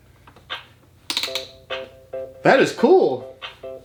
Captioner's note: nob ratcheting